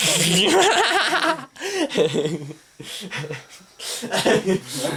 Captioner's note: laughing